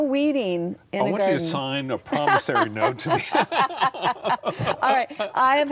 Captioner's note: laughing